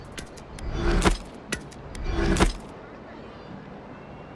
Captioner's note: interface chiming